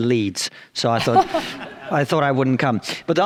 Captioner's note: audience chuckles